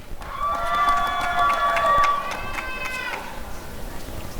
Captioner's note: applause and cheering